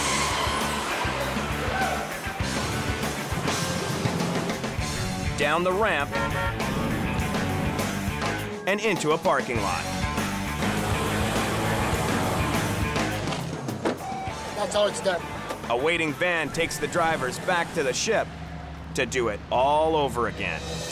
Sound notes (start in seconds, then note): 5.8 car honks; 10.0 car engine revving